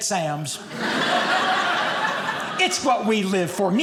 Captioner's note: audience laughing